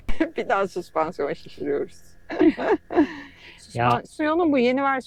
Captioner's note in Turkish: kahkaha